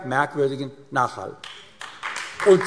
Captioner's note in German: Beifall AfD